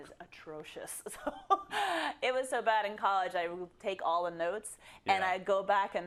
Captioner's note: laugh